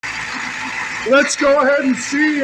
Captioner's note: engine idling